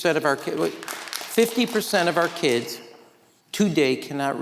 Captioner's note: audience clapping